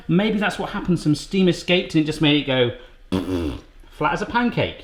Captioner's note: blows raspberry